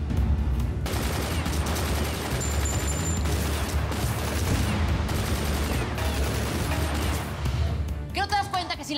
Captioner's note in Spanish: ruido de la balacera